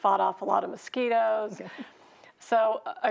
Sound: chuckles

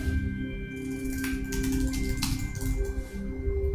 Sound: keys clacking

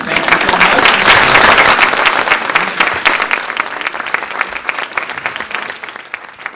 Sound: applause

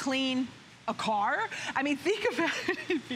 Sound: laughter

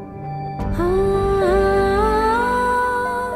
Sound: emotional vocalising

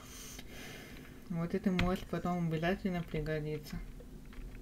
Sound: sighs

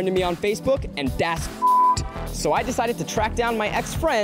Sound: beep

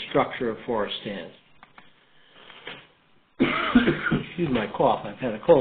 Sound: cough

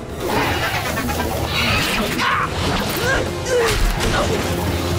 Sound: grunting

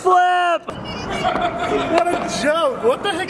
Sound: crowd shouting; squeaker horn honking

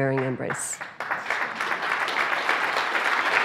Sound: applause

